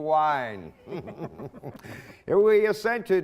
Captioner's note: laughing